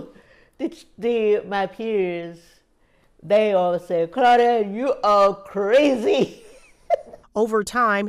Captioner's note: laughter